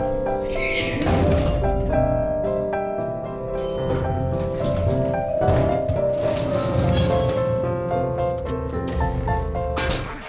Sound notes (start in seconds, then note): 0.6 sneeze; 3.6 ding